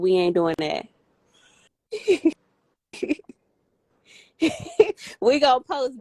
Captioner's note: laughter